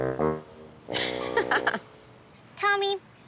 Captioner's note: humorous music; laughs